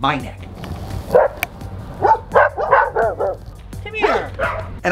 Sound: dog barking

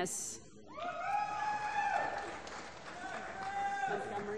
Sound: applause

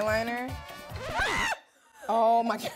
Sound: screaming

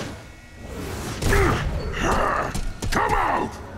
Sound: grunting

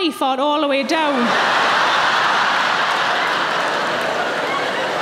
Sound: audience laughing

